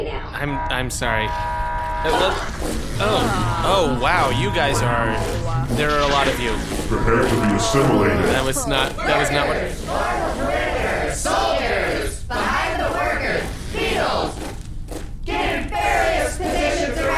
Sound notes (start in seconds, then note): 6.2 groans again; 8.1 quietly; 14.5 slightly faltering